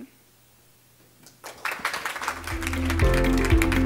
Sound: audience applaud; bright upbeat music

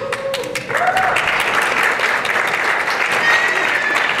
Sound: applause and cheering

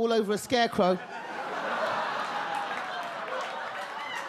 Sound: audience laugh

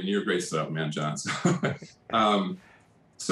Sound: laughs

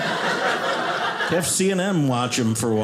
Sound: audience laughing

